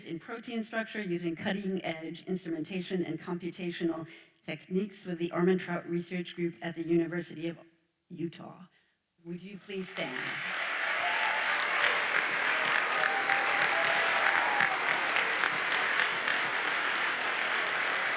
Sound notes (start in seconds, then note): 9.9 audience cheers and applauds